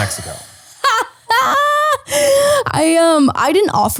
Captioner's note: laughing